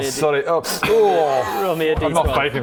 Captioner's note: sniff